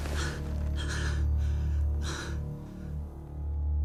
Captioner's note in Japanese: 荒い息